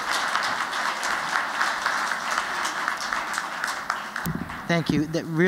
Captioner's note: applause